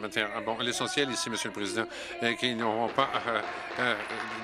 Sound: applause

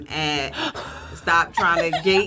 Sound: chuckles

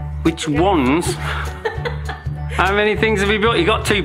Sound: laugh together

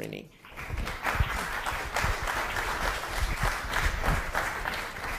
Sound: audience claps

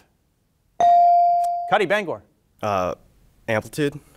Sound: bell ringing

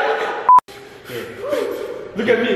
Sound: frantic breathing

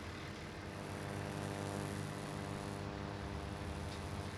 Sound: buzzing

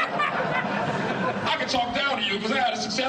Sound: audience laughing

